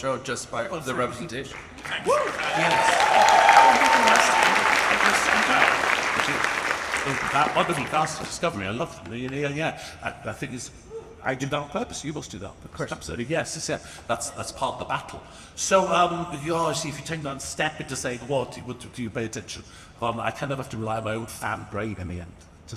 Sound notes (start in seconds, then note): 1.5 audience applauds and cheers; 1.8 drowned out by audience